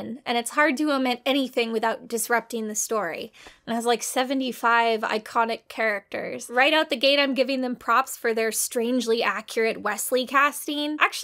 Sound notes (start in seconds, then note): none